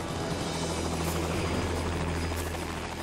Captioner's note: helicopter motor rumbling